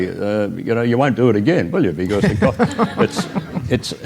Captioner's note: audience Laughter